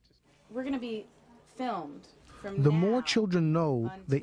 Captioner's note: voiceover